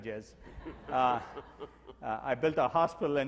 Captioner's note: audience laughs